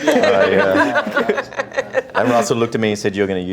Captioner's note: laughing